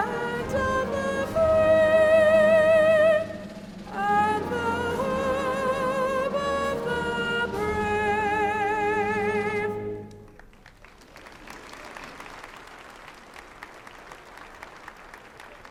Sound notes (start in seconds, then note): 10.2 applause